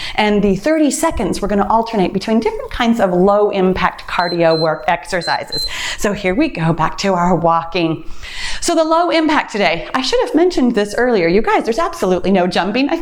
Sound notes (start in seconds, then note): 4.1 timer beeps